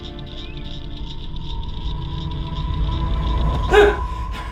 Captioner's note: man gasps